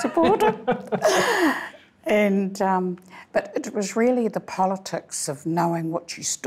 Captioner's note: laughing